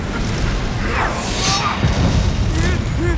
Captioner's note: booming impact